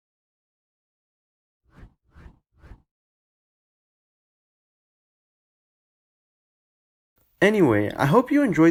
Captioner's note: transition swooshes